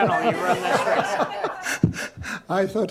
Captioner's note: laughter